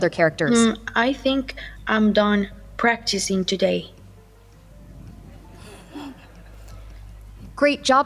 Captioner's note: laughter